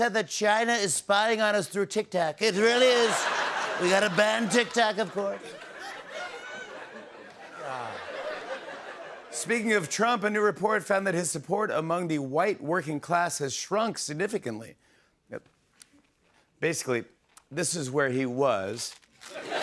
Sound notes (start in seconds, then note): 3.0 laughter; 5.8 laughter continues; 19.2 laughter